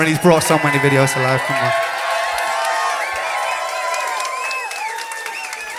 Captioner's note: cheers and applause